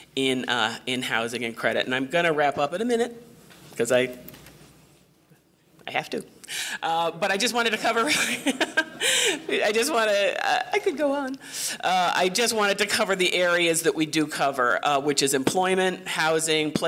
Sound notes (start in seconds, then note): 8.0 laughs